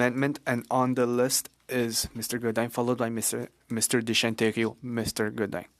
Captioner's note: speaking French